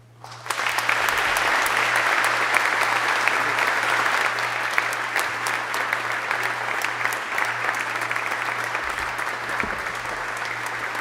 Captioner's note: applause